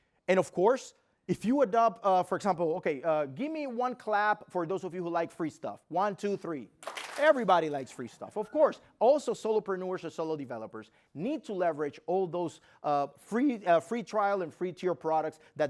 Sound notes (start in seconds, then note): 6.8 clap